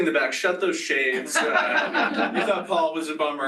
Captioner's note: laughter